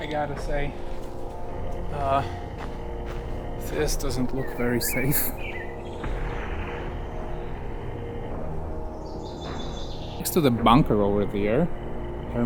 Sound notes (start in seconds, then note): 7.2 birds chirping; 7.2 suspenseful music